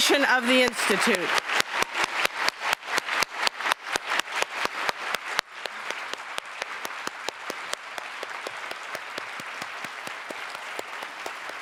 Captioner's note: applause